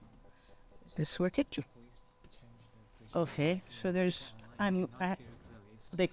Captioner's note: people chattering indistinctly